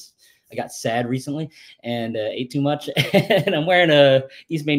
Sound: laughs

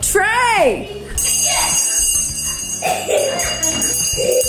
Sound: bell rings

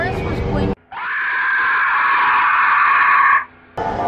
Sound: dino call

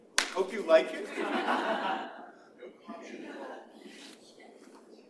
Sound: chuckles

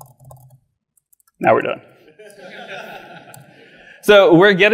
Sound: audience laughs

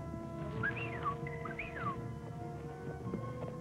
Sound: whistle

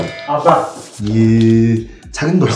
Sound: ohh

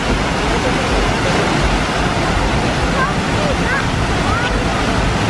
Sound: water falling

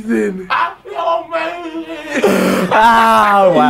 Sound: laughing

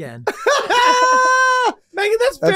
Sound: Rob laughing

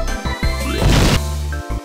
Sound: explosion

